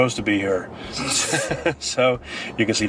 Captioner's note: laughing